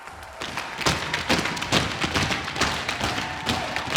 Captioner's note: footsteps thudding